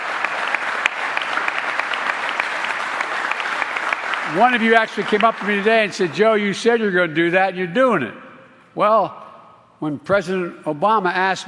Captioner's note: applause